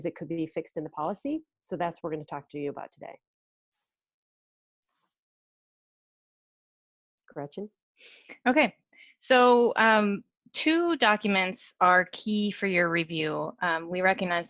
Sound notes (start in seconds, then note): 4.3 silence